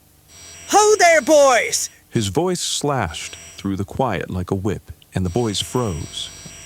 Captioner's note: Static